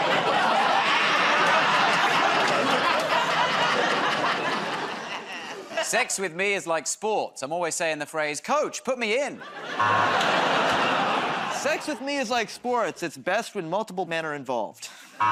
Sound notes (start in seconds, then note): 2.4 laughs; 2.4 laughter, buzzer; 9.4 laughter, buzzer